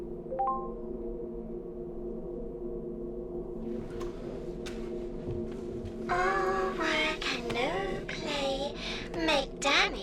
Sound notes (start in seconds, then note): 0.7 computer dings